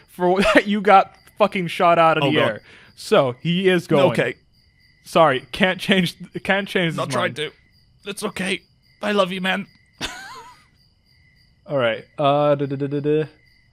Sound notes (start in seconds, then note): 4.3 strained; 10.0 laughs